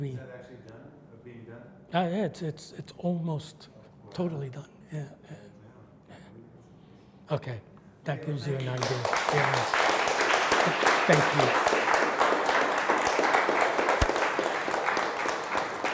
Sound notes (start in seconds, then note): 8.5 audience applauds